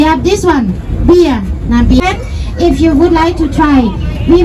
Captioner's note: boat tour guide speaking